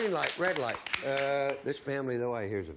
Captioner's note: applause